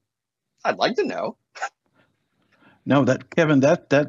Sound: laughs

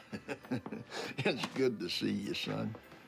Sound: chuckling

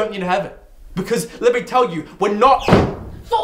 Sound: door slams

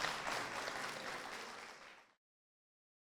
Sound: applause

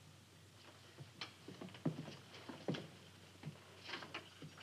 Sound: footsteps approaching

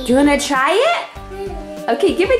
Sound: excited toddler

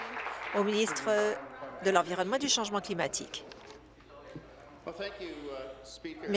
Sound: applause

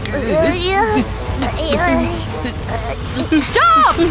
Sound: Blo and Tori whimper

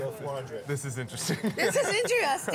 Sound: laughing

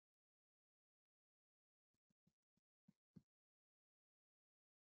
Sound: silence

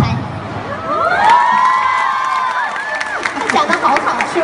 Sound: 欢呼声; applause

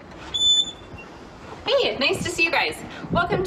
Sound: door creaks

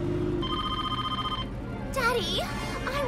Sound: phone ringing

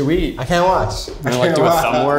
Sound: laughing

